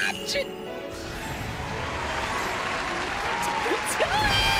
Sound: canned Applause

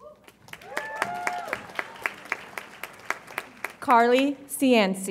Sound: audience applauds and cheers

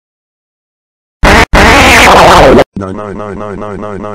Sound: blowing a raspberry

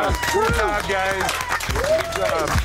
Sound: crowd cheering

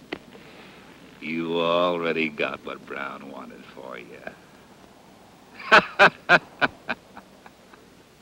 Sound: laughs

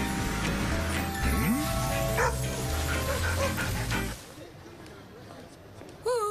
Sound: vocalizing, barking

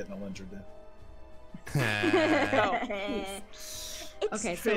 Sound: laughs

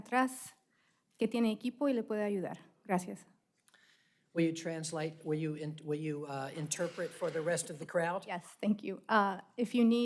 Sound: speaking spanish

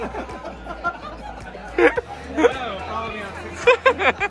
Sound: laughing

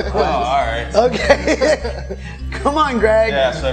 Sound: laughing

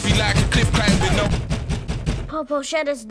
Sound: knocking on door; record scratches

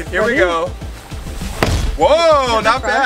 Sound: bangs

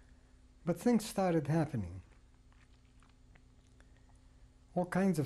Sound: pauses for 3 seconds

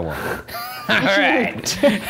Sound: laughing

